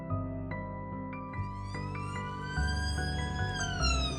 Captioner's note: ambulance siren sound